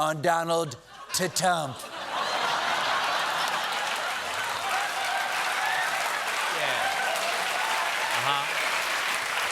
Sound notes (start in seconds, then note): 2.8 applause; 2.8 laughter